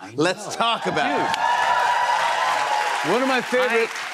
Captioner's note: cheers and applause